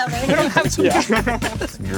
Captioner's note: all laugh